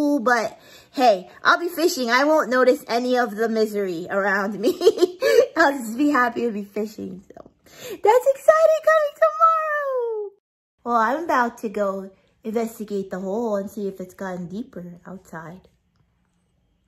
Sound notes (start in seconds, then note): 5.1 laughs